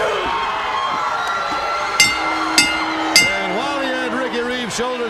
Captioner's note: crowd cheering; bell ringing